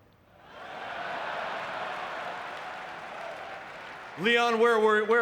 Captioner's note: audience clapping